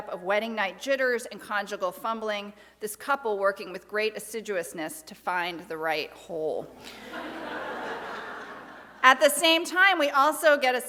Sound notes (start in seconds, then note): 6.9 audience laughs